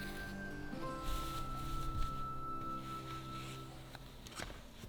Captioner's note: fabric rustling